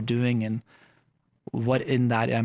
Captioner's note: none